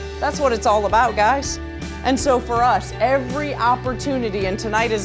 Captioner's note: none